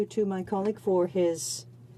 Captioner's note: speaking French